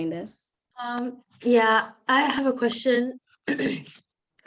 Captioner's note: clears throat